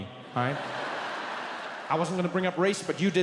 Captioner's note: audience laughs